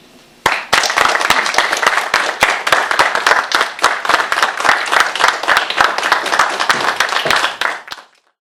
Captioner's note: applause